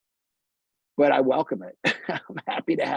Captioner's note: laughs